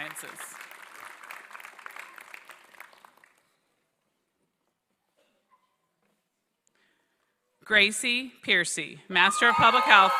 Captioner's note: applause